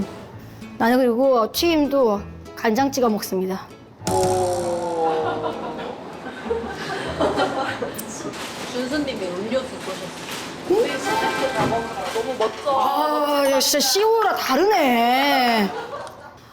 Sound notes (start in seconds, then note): 4.1 public sentiment of tteokbokki sauce lovers rebutting with boos